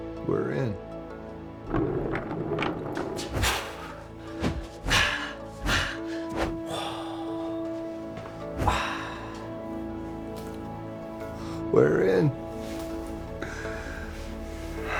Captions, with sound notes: - We're in. (Falcon vocalizing) We're in.